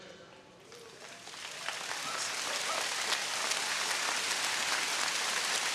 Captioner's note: audience cheering